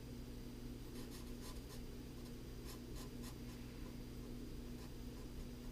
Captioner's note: pen writing on paper